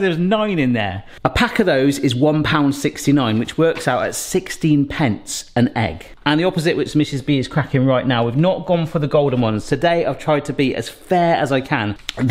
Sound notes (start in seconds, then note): none